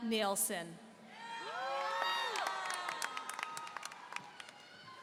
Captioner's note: audience cheering